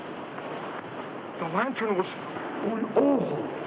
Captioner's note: speaks in foreign language